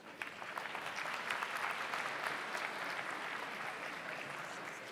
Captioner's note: audience applauds